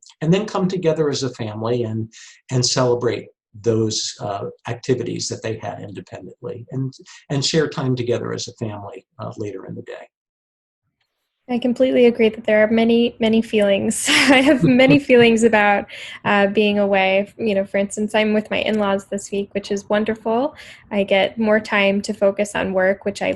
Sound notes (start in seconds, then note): 14.1 chuckles